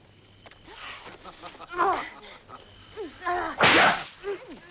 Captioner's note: Torente laughing; wives grunting; whip cracks